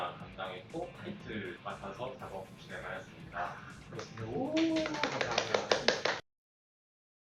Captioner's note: applause